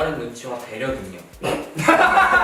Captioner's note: pffft